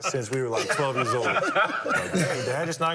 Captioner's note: laughter